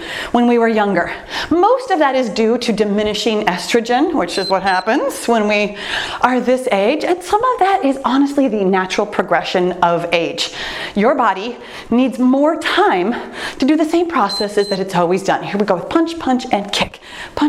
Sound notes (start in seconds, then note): 4.2 timer beeps; 14.2 timer beeps